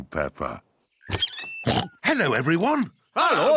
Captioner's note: oinks